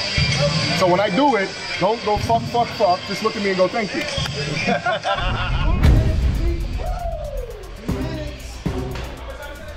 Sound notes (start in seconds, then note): 4.4 laughing; 6.5 player yells: Wooo!